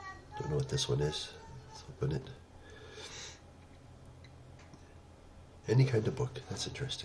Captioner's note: pause